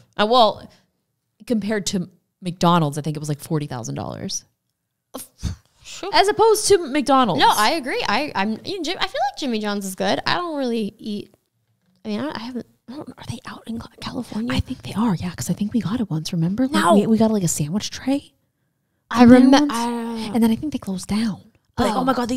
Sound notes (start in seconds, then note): 13.1 whispers